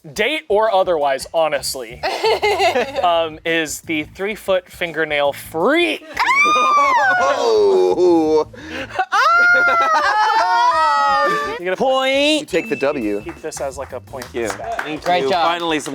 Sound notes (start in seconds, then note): 2.0 laughing; 9.2 everyone exclaiming